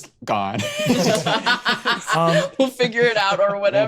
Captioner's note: laughs